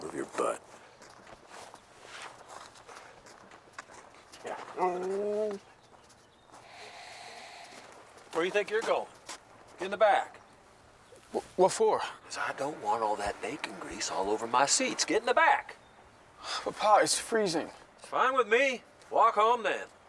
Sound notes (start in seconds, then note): 5.0 Buck growls; 16.4 sighs